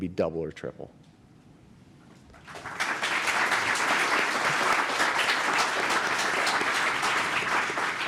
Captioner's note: applause